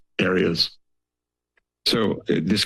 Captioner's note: silence